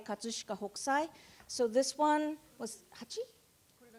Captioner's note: speaking japanese